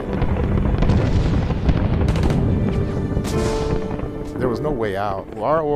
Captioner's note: sounds of war